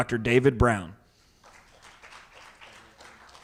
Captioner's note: audience clapping